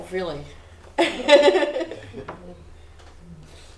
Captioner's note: laughs